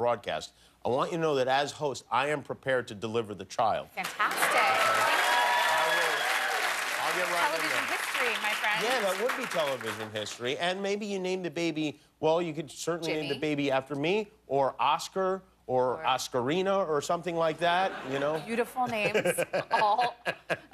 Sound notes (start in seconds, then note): 4.0 cheers and applause